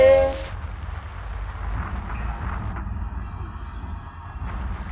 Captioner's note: hands rasping; pencil rasping